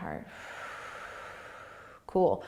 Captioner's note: exhaling